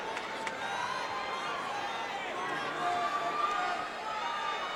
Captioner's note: crowd cheering